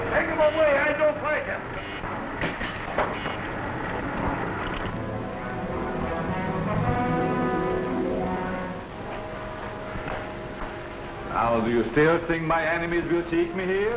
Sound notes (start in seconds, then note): 2.4 chair clattering; 4.9 tense mystical music